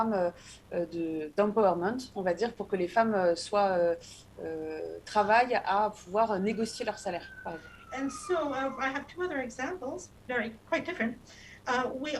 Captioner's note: speaking non-english